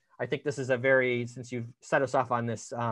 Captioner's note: none